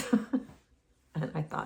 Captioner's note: chuckles